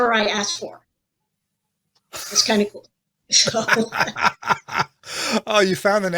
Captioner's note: chuckles